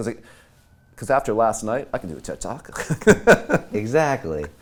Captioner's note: laughing